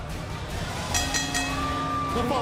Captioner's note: bell ringing